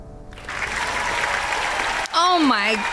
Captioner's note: applause